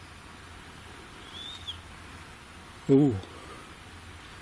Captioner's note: whistle